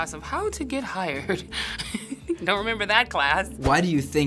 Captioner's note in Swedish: fnissar